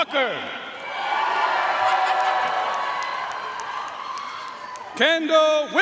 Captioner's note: audience cheering and applauding